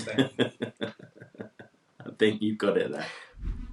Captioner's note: laughs